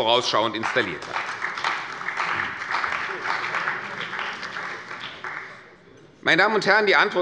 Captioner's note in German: Beifall bei der CDU und dem BÜNDNIS 90/DIE GRÜNEN